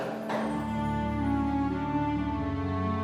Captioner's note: low metallic thuds; emotional music